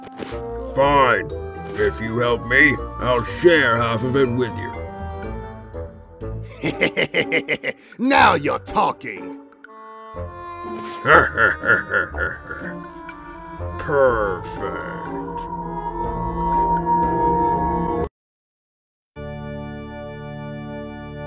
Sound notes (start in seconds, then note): 6.4 Wario laughs; 10.8 Bowser laughs as well